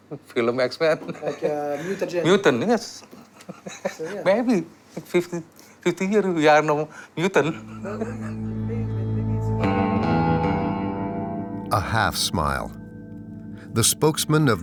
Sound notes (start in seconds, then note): 4.2 laughing; 10.5 dramatic music